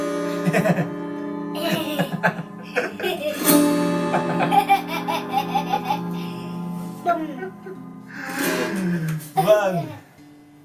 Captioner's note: baby and daddy laughing